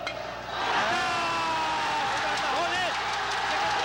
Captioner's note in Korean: 사람들의 환호성